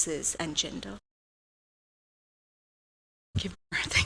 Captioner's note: audio out